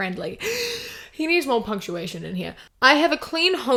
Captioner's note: big gasp